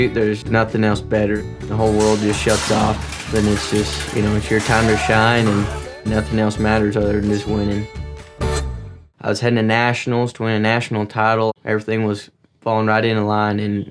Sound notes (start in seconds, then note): 1.7 metal clanging